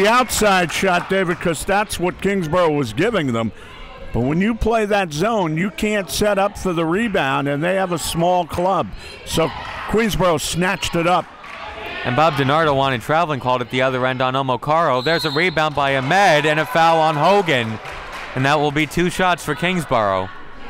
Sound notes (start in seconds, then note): 14.9 referee blows whistle; 18.0 crowd clapping